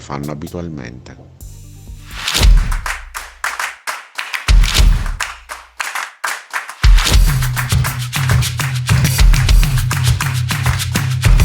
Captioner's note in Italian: Applauso